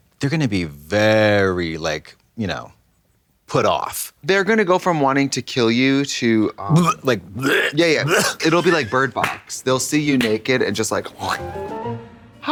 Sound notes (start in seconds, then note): 6.6 Katya gags; 11.5 slashing sound